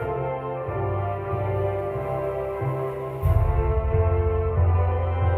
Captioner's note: none